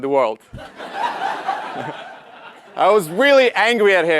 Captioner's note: laugh